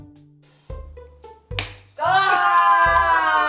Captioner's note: meat slapping